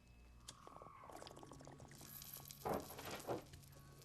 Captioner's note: beads rattle